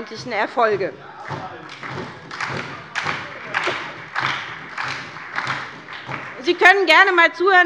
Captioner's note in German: Beifall bei der SPD